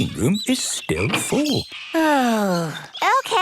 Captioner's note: sighs